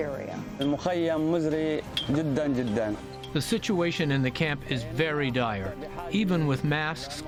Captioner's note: through translator